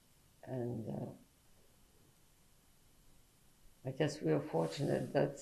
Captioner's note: pauses for 3 seconds